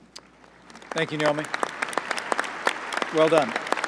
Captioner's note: applause